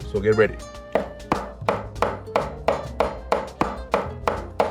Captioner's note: rhythmic tapping